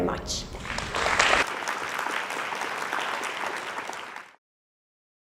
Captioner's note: audience applauds